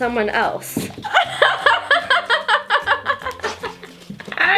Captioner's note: laughs